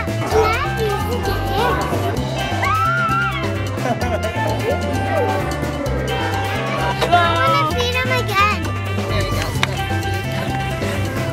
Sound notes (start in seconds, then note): 0.3 relaxing music continues; 2.4 screams; 3.9 chuckles; 4.9 relaxing music continues